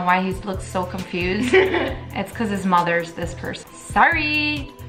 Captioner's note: laughs